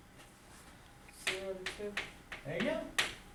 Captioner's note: voiceover